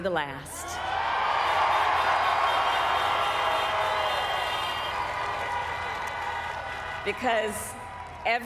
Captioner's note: people cheering